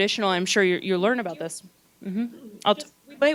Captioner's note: gentle speaking